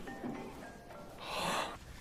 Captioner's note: sighs